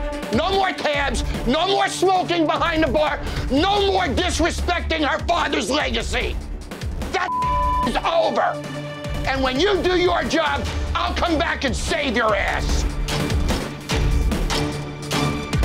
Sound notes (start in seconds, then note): 7.2 beep; 12.8 dramatic music